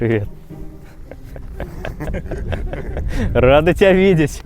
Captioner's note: laughing